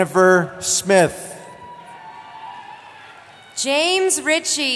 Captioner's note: cheering